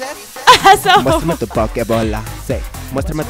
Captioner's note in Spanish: risas